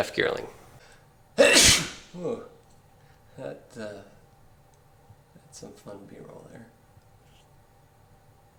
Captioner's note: ah-CHOO!